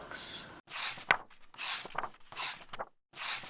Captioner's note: pages turning